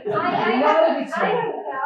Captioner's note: chatter